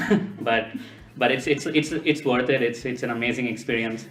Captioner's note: laugh